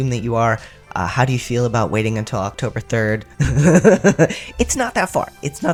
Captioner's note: laughter